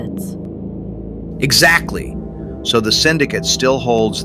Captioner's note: excited